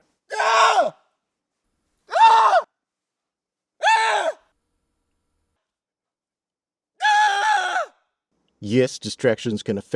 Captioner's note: screaming